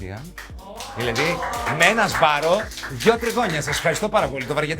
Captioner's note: applause